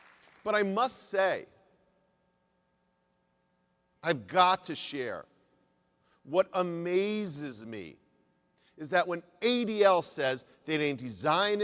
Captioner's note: applause